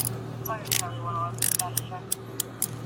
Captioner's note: radio chatter